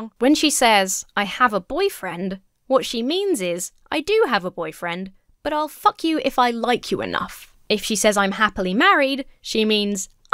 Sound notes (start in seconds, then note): none